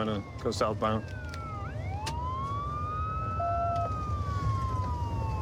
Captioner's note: sirens wailing